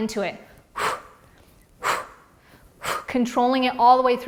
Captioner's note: exhales loudly